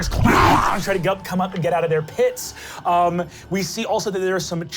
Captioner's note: snarling